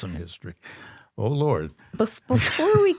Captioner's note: laughs